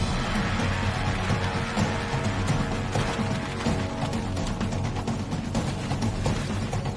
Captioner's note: dramatic music; water splashing